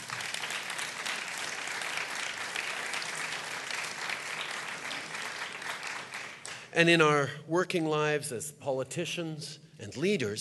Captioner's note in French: Applaudissements